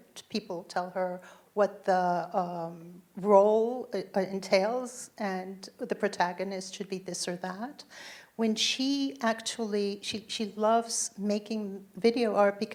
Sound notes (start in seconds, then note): none